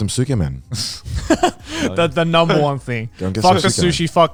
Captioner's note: laughs